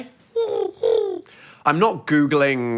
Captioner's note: coos